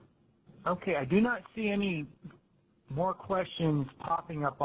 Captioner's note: voiceover